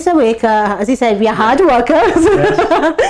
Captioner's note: laughs